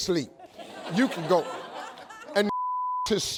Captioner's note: audience laughs